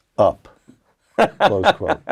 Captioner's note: laugh